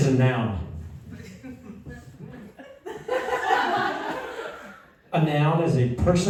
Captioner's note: laughter